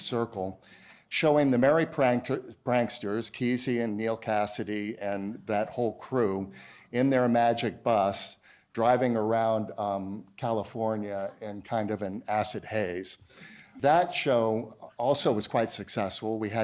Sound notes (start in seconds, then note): none